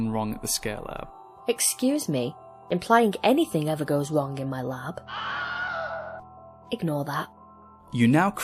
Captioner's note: scream